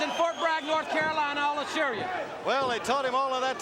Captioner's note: crowd cheering